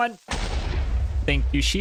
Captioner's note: explosion